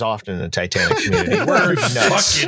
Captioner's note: laughter